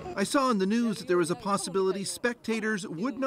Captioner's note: speaking foreign language